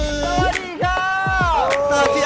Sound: passionately responding

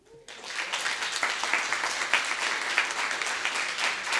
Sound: audience applauding

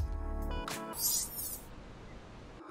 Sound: earlier demonstrated sound effect plays

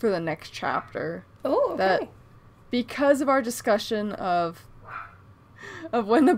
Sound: barks

